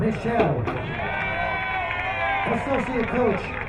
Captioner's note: crowd cheering